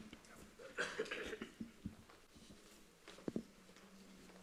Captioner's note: person coughs